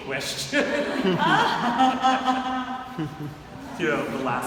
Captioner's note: audience laughing